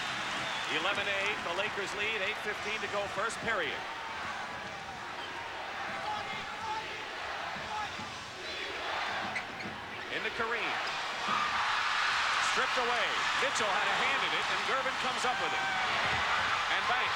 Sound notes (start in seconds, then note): 7.5 crowd chanting "defense"; 11.5 crowd cheers